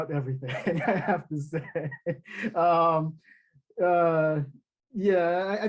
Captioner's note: chuckling